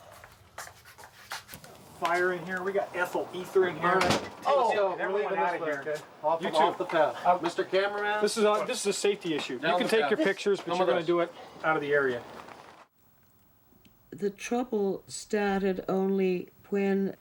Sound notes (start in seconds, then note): 4.3 overlapping chatter